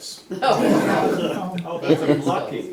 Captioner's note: laughter